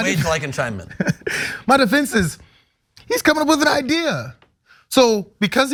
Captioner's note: laugh